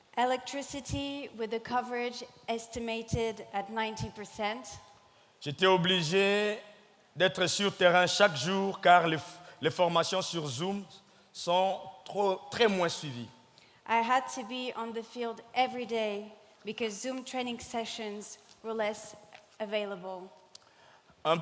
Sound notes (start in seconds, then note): 5.5 speaking in French